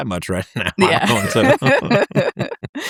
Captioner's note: both laughing